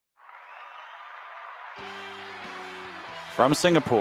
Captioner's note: applause